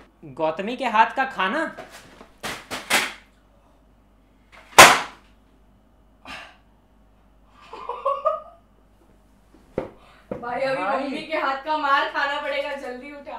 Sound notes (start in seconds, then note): 4.7 le smack; 7.6 nervous laughter